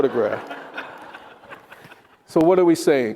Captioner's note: attendees laughing